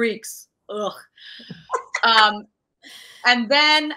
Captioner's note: laughing